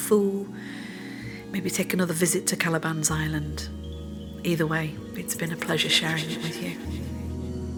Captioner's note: echoes and reverb on last line, fading out